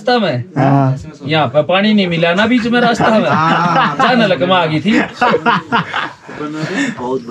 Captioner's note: laughs